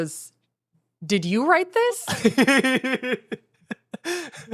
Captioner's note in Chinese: 笑著